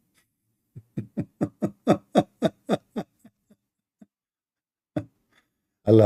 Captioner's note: Ketawa